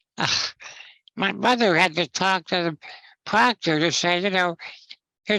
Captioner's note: chuckles